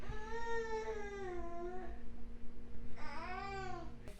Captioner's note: baby crying